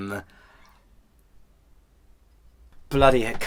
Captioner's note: silence